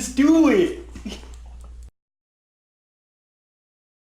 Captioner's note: laughs